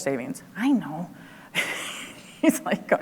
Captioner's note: laughs